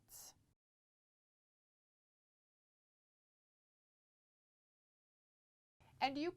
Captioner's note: no Sound Present